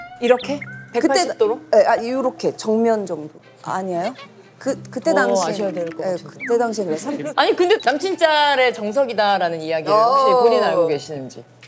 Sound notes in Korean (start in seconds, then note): 3.6 긁적